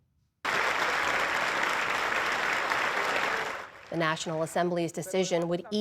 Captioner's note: applause